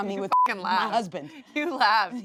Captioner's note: beep